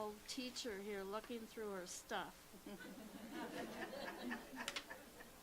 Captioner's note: laughter